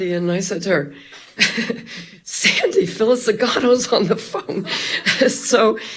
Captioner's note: chuckles; laughing; chuckles